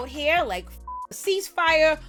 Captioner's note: beep